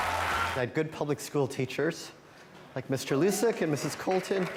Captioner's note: cheering